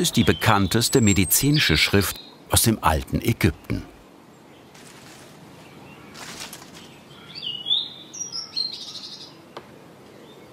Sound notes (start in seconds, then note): 7.3 birds chirping